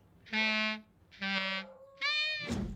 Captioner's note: squawks